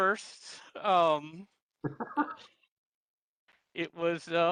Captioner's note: laughs